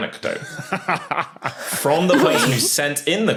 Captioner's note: guessers laugh in turn